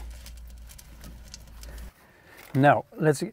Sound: fire blazing

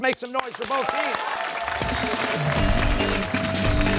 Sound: applause

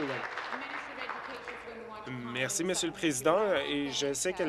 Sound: applause

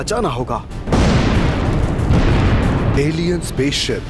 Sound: explosions

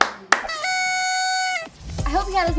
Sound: claps; party horn sound

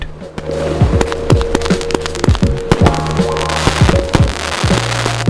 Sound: fireworks crackling

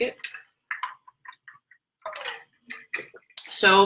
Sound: drinking

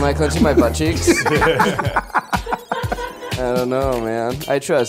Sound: laughing

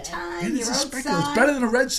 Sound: voiceover

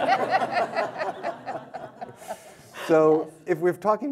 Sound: audience and panel laughing

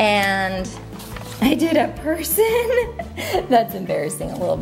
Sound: giggling; laughs

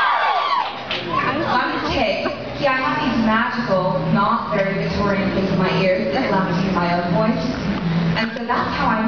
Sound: fans screaming

